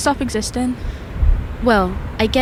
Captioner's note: there is a very slow fade up of night soundscape